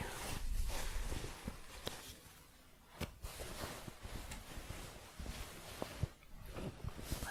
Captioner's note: shuffling